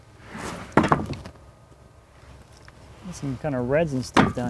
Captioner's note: wood clunking